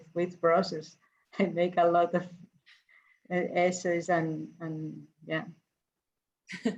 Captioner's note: chuckles